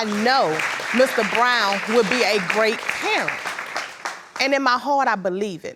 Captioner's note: applauding